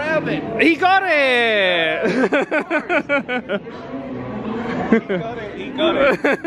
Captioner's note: laughs